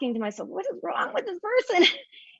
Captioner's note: laughs